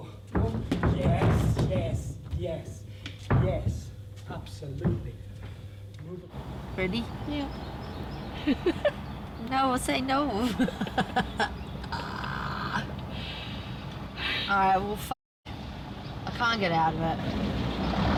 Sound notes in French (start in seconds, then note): 11.7 rit nerveusement